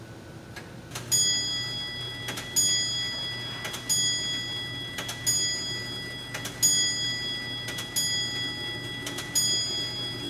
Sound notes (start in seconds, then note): 1.1 clock's bell chime rings; 4.0 bell chimes continue; 4.0 ticking sound and clock in operation continues